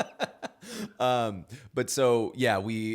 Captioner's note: laughing